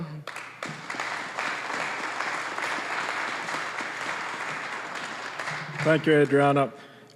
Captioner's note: applause